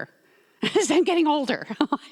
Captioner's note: laughs